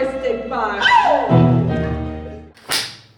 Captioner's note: scream